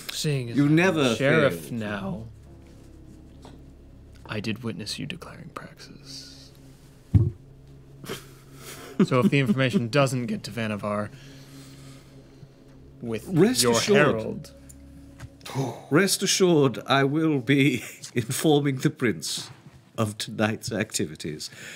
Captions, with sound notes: - Seeing as I'm the sheriff now, I did witness you declaring praxis. (chuckling) So if the information doesn't get to Vannevar with your herald. - Rest assured, I will be informing the prince of tonight's activities.